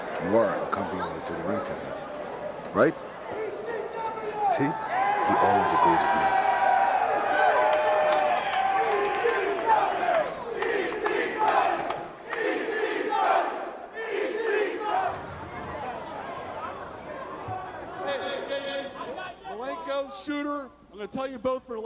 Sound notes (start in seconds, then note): 6.7 crowd cheering